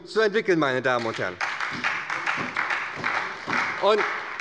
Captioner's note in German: Beifall bei der SPD